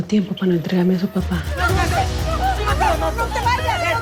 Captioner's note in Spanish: Gritos y exclamaciones